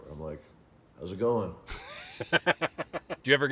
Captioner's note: laughing